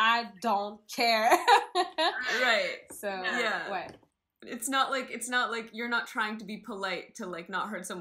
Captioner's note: laugh